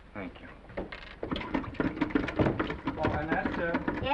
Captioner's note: handle rattling